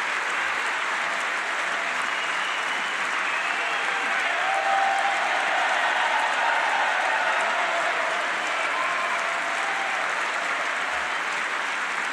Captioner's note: applause